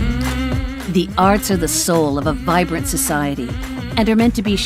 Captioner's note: voiceover